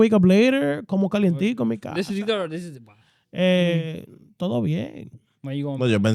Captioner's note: speaking In Foreign Language